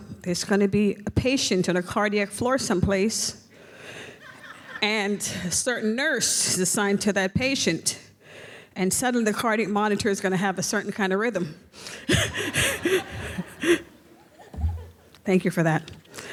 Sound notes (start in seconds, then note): 4.2 audience laughs; 11.9 laughs; 12.0 audience laughs